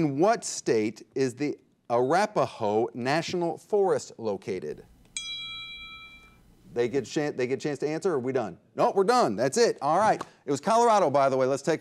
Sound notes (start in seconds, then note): 5.1 timer dings